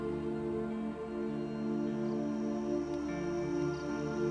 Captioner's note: sounds of crickets chirping and mosquitoes buzzing